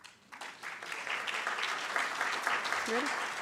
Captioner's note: audience claps